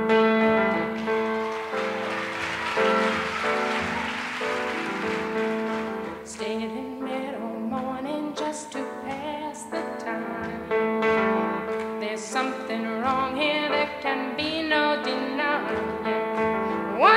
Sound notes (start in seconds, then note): 0.7 audience applauding